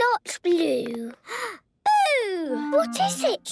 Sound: gasps

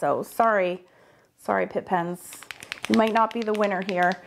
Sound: pen clattering

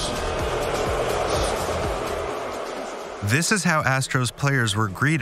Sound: crowd booing

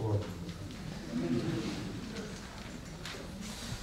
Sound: laughter

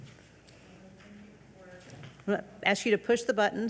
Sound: speaks faintly

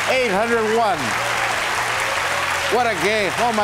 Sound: audience applauds

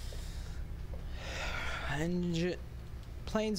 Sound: sigh

